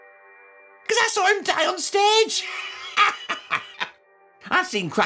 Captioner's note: cackles